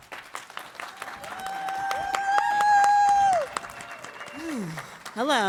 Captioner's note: audience applauding and cheering